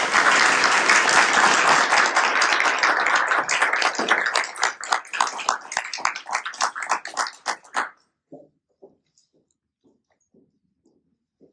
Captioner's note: applause